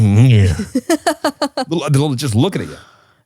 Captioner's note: laughs